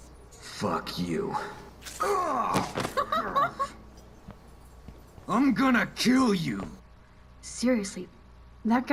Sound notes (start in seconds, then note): 2.8 Max laughs